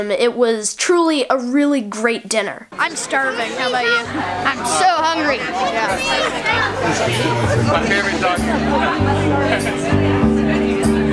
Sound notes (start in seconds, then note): 7.3 people conversing